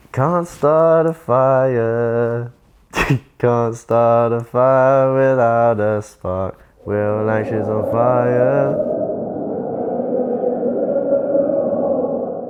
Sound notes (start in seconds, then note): 0.2 singing; 9.7 crowd chanting